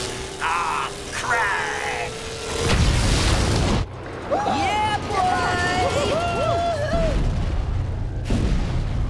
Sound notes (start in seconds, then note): 5.5 cheering